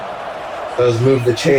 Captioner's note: crowd Noises